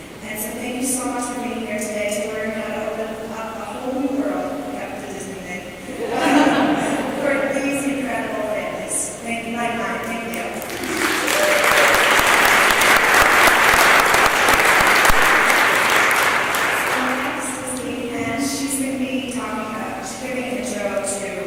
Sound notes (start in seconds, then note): 15.9 applause